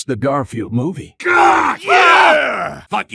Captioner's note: more disapproving disgust